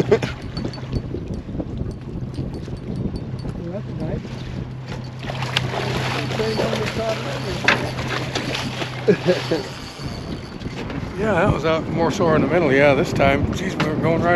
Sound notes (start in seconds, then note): 0.0 chuckling; 4.9 fish splashing; 11.5 reel spinning